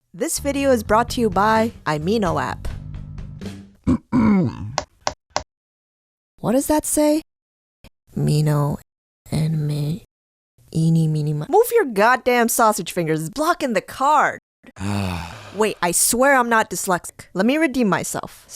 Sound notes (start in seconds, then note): 3.8 clears throat